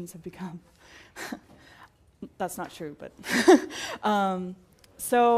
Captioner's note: laugh